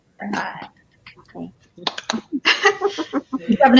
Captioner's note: all laugh